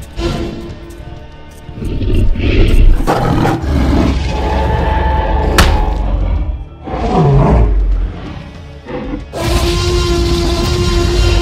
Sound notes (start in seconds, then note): 5.6 Crack sound as Saber Tooth hits the log; 8.8 loud T-Rex Roar